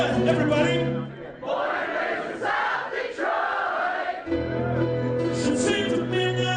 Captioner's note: crowd